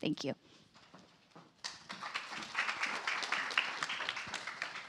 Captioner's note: applause